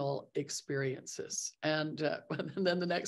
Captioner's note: laughing